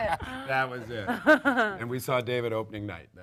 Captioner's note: panel laughs